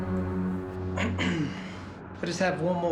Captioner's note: clears throat